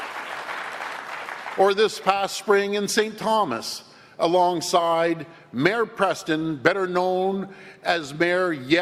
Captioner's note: applause